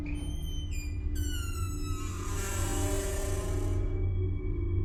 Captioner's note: door creaks